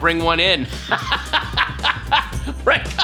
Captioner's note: Patton laughs